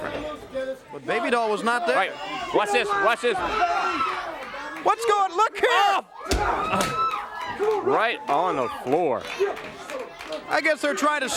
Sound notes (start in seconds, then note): 5.6 crowd cheering; 9.7 crowd chatter